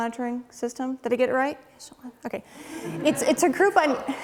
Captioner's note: laughing